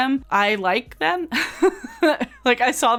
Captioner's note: laughs